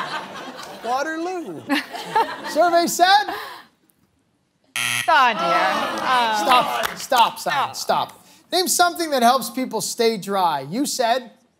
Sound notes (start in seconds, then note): 0.2 laughing; 2.1 laughing; 4.7 buzzer sounds